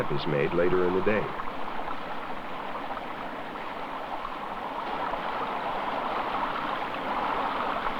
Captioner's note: sound of water from stream